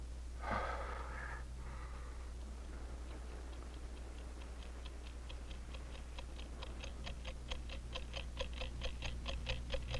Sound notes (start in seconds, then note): 0.4 Tom sighing; 2.4 clock ticking rapidly